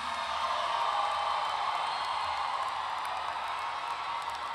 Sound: audience cheering

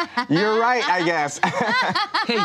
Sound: laughs

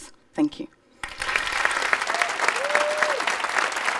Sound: applause

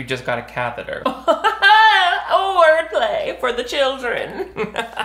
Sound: laughing

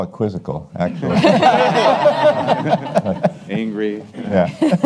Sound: attendees laugh

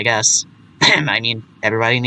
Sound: ahem!

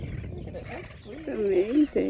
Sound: laughs

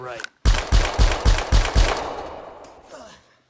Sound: gun Shots

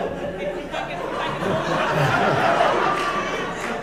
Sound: laughter

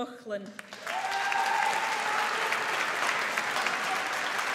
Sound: audience applauds

